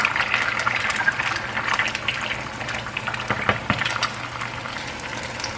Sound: starting the morning with sizzling noise

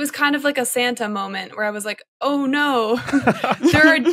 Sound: laughs

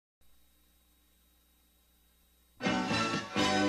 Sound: VHS static; retro music plays

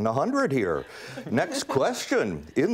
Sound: students laugh

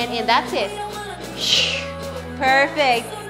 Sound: sighs

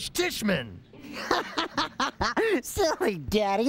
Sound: laughs

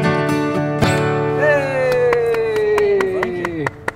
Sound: applauding

